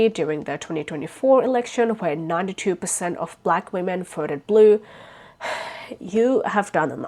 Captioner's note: sighs